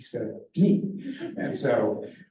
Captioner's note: laughter